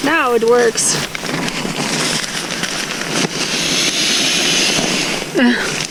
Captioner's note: rustling and sound of air streaming into the mattress; laughs